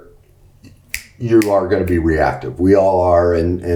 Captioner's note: snaps fingers